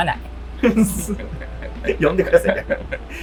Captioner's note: laughing